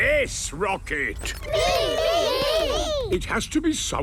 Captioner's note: calling out in turn